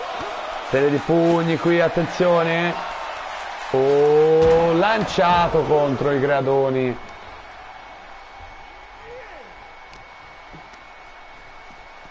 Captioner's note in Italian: Applauso